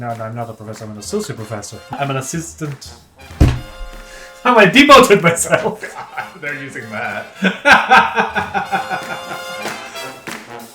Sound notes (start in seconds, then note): 7.0 laughing